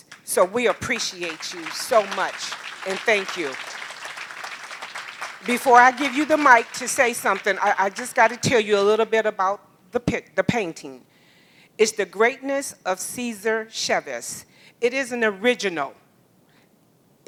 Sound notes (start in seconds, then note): 3.8 applause